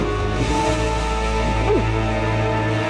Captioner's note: gulp